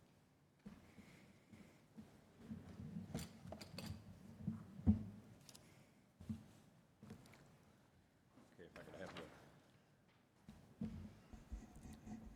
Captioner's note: quiet room